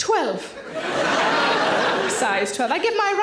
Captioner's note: audience laughing